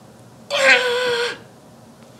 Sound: Sticks screaming

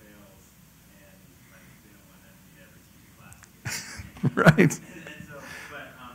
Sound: laugh

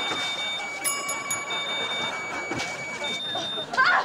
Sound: beeping, dinging

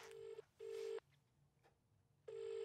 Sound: phone rings

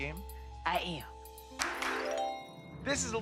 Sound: clicks finger

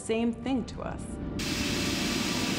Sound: steam hissing

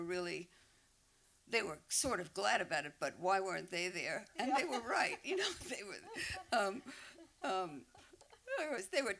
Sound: laughter

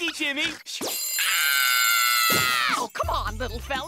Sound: screaming, ringing

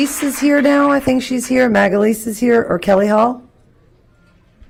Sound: applause

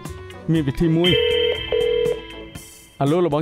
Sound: phone connected

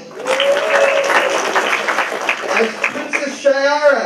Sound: applause

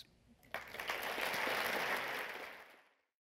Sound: applauding

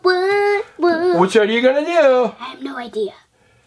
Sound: voiceover

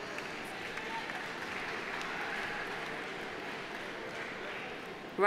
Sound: audience applauding

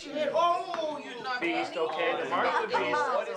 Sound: all chattering

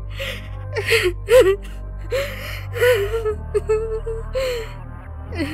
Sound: Tia crying

